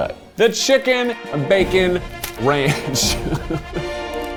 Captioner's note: laughs; triumphant music